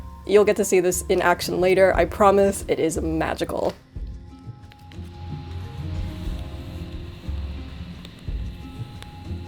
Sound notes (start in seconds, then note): 3.8 gentle bright music; 3.8 tape rustling